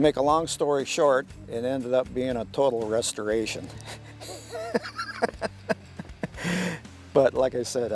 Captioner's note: laughing